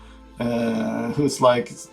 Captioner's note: none